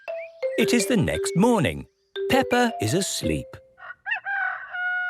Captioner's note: cock-a-doodle-doo